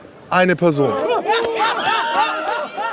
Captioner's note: screams